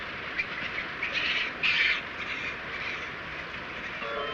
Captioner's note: monkey chittering